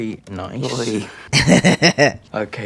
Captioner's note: laugh